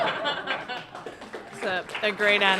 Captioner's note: applause